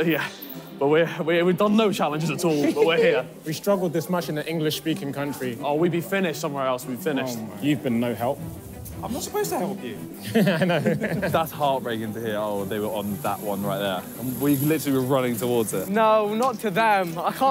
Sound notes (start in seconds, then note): 10.2 laughing